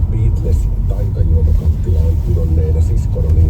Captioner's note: radio playing in the background